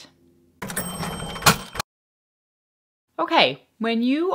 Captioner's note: cash register bell